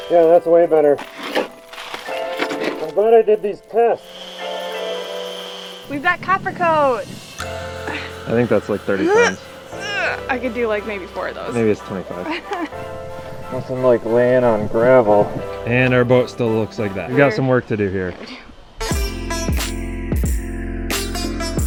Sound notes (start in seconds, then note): 0.0 inspirational music; 9.7 grunting; 18.9 upbeat music